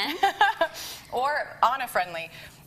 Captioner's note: laughs